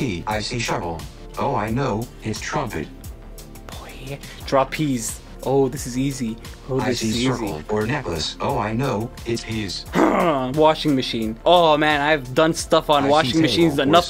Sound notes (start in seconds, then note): 7.7 Google voice